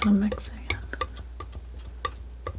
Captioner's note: scratching